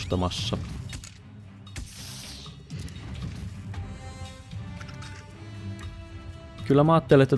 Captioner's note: ferocious battle sounds